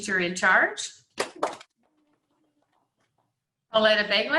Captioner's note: clapping